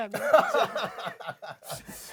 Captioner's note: ha ha ha ha…